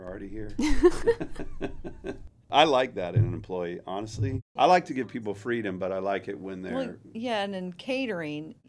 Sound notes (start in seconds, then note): 0.6 laughing